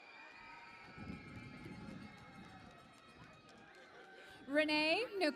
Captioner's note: cheering and Applause